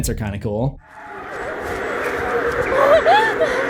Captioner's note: animal cries echo everywhere; Harper whimpering